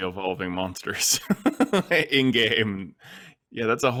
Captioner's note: laughs